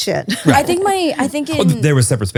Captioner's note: laughs